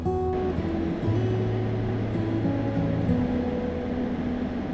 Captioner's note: melodic guitar music; car engine whooshing